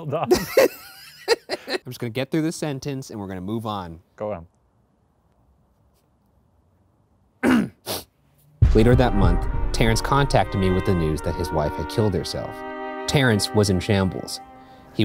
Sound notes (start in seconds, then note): 0.2 laughing; 7.4 clearing throat